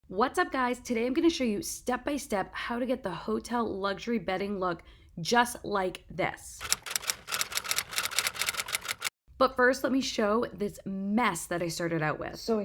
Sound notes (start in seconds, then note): 6.6 typewriter typing